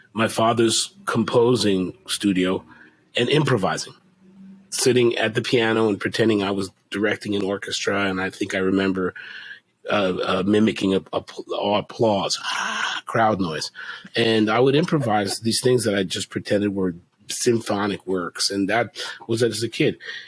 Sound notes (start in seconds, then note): 13.8 haaaaaa